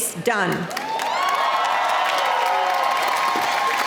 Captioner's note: applause